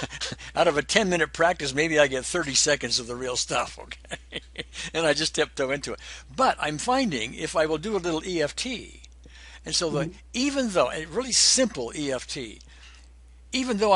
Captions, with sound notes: And so out of a 10 minute practice maybe I get 30 seconds of the real stuff, okay? (laughs) And I just tiptoe into it. But I'm finding if I will do a little EFT, and so, even though, a really simple EFT,